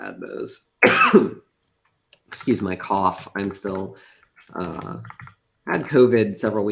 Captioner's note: coughs